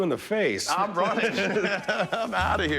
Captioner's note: laughs